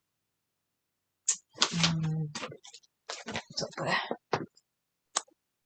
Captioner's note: rummaging and muttering